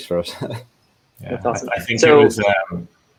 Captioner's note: laughing